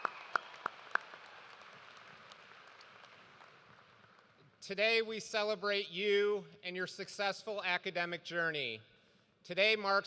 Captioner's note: cheers and applause